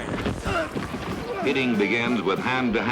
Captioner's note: grunting